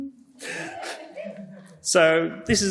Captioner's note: audience member laughs